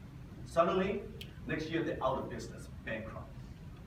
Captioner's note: snaps